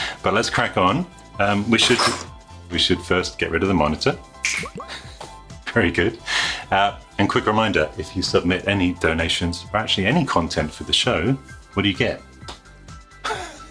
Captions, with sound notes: But let's crack on. (imitating crunching sounds) We should first get rid of the monitor. (snapping) Very good. And quick reminder, if you submit any donations, or actually any content for the show, what do you get?